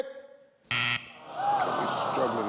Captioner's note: buzzer rings; audience groans